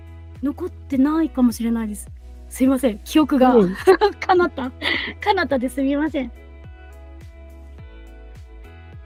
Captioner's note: laughs